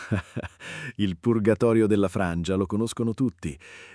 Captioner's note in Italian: Haha